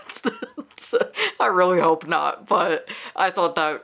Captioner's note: laughs